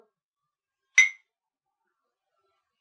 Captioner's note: clink